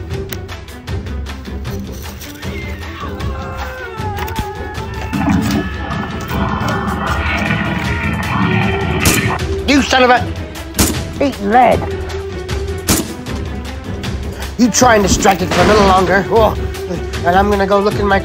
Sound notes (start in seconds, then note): 0.5 soldier yelling; 0.5 suspenseful music; 9.0 loud gunshots